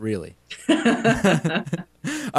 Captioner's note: laughter